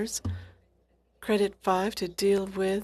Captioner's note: speaking French